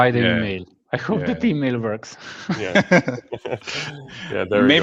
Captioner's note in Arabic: ضحك